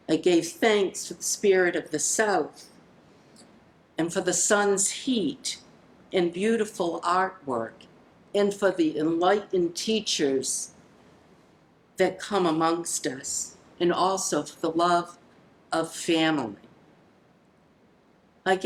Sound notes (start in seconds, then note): none